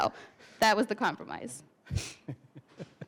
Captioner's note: laughter